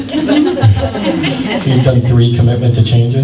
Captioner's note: laughter